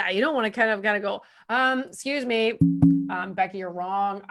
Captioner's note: hits a drum